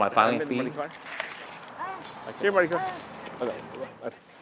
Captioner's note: chatter